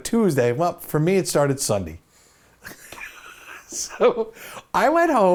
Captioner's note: laughs